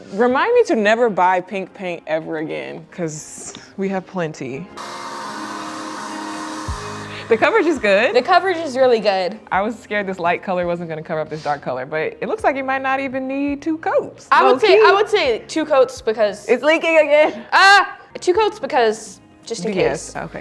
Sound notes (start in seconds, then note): 4.8 spray gun whirring; 5.0 mellow music